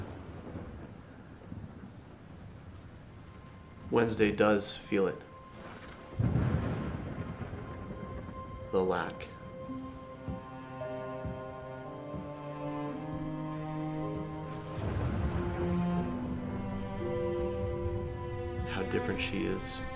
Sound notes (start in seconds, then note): 0.0 thunder rumbles; 6.7 thunder rumbles; 10.3 sad violin playing